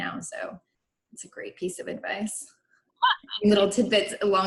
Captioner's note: laughs